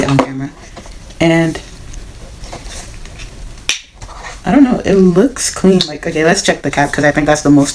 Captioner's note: cap pops open